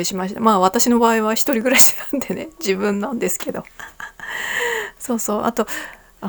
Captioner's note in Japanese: 息をのむ音